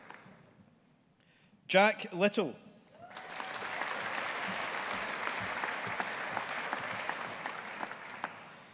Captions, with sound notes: Jack Little. (AUDIENCE APPLAUDING)